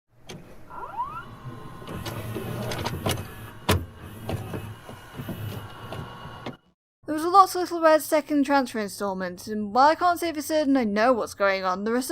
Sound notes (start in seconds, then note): 0.2 VHS noises